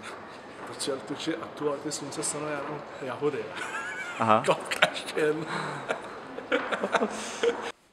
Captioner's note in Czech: smích